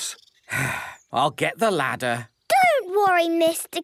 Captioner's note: sigh